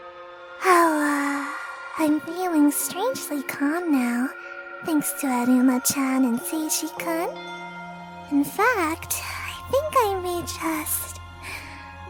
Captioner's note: yawn